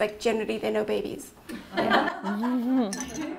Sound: laughing

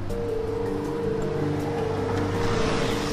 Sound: vehicle passing

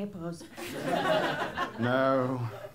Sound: laughter

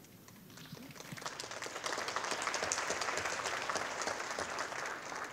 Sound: audience applauding

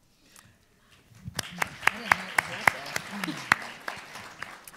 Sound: audience applauding

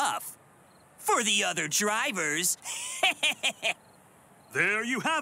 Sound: laughs

